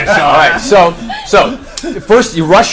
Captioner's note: all laugh